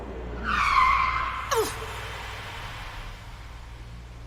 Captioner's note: brakes screech